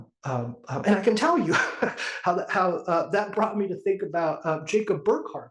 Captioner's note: laugh